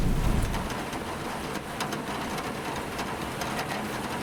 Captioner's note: rain hitting window